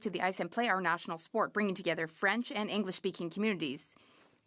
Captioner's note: speaking French